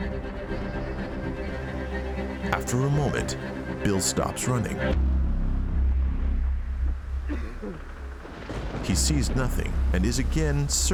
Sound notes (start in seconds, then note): 7.2 coughing